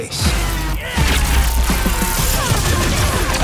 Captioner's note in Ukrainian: кричить